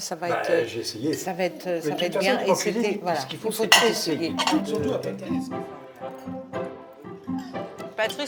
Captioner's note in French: chant